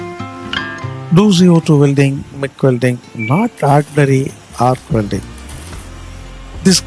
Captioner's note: MIG welding